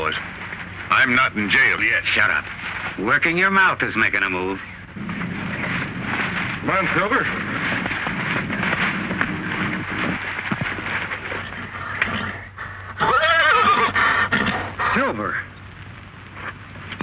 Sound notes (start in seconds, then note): 12.7 neighs excitedly